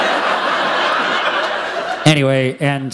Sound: laughter

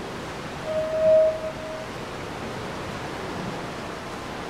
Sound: alarm beeping

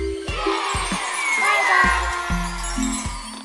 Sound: applause

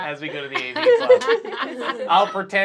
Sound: laughing

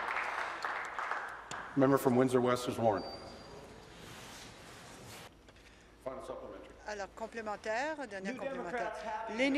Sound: applause

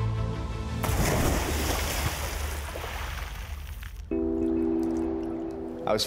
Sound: splash

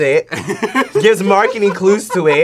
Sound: laughs

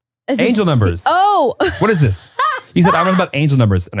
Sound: laughing

